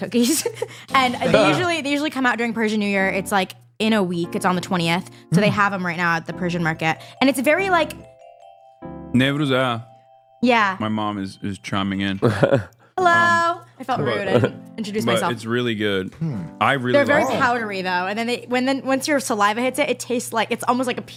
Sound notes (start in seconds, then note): 1.0 laughs; 9.7 speaks Turkish